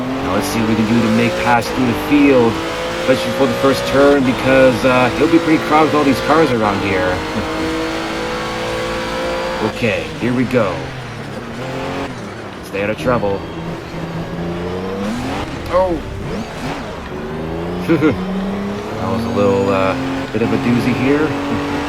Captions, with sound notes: Now let's see what we can do to make pass through the field... especially for the first turn because uh... it'll be pretty crowded with all these cars around here! Okay here we go... let's stay out of trouble! Oww!! *nervous chuckle* That was a little bit of a doozy here!